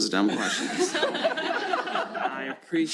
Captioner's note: laughter